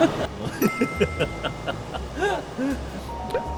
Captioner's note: bursts out laughing every time he sees it